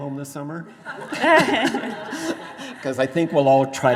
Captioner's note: both laughing